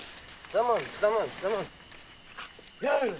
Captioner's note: speaking native language